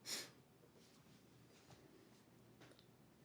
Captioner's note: huffs